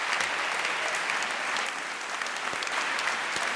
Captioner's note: applause